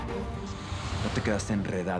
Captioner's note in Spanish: Estruendo